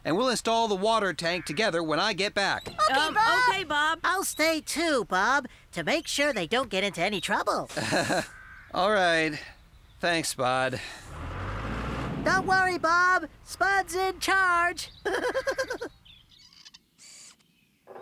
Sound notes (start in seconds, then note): 7.7 weak Chuckle; 12.5 shouting; 14.9 giggling